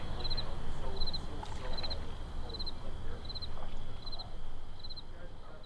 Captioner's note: people chattering faintly